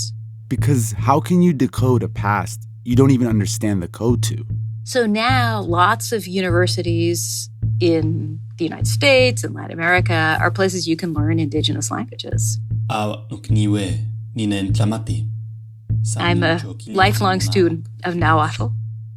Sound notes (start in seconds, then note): 13.7 speaking non-English language